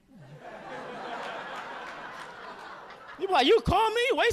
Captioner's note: audience laughing